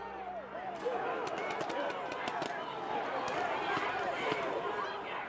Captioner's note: ball launchers firing